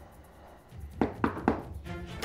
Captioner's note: door knocking sound